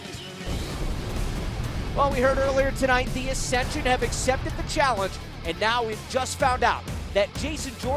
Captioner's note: none